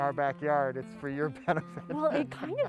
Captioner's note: chuckles